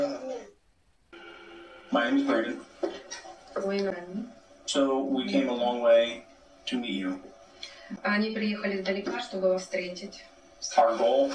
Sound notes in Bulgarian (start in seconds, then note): 1.3 преводачка превежда на украински